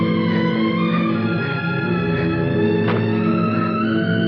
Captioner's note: louise gasps and closes door